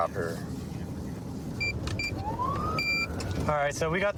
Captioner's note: buttons beeping